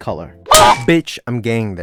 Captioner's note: smack